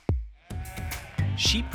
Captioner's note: sheep bleating